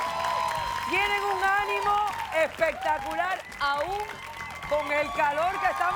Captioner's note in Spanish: Aplausos